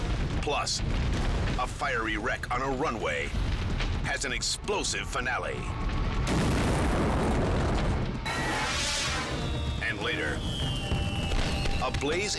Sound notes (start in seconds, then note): 5.5 explosion booming; 8.3 logo swooshing; 10.4 fireworks popping